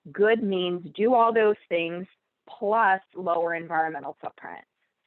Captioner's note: none